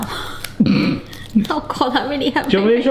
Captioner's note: laughs